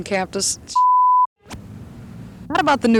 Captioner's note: beep